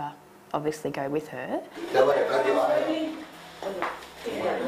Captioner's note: chatter